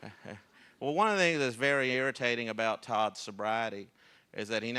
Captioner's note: laughter